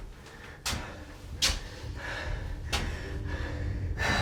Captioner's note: breathing